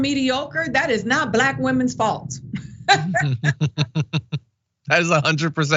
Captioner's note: laugh